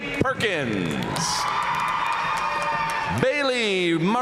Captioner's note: audience cheering and applauding